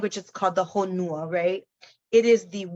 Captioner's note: speaks in foreign language